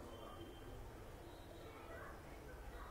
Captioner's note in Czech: none